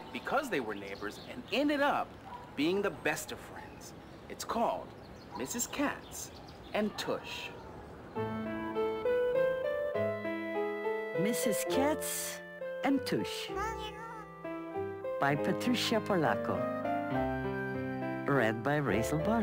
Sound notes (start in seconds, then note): 8.1 piano music; 13.6 cat meowing